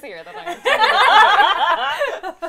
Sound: laughter

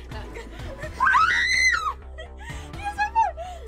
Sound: screams

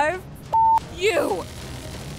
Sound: beep

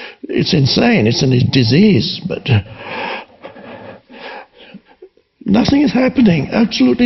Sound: breathes heavy

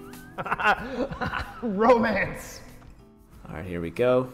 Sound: laughs

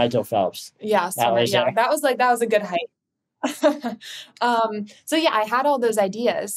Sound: chuckles

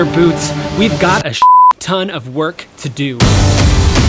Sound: beep; upbeat music

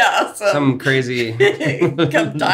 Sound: laughs

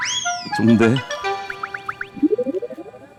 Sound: scratch scratch

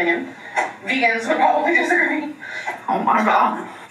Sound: laughing

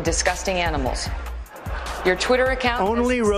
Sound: laughter

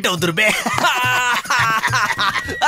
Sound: laughs

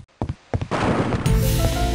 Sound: wall breaks

